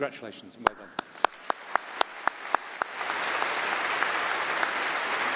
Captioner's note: applause